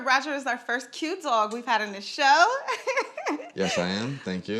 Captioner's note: laughs